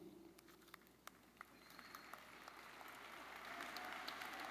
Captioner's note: audience applauding